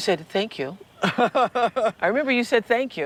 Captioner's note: laughs